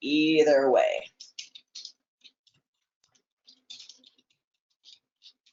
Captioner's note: keyboard typing